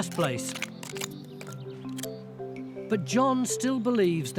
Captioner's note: tool scrapes rocks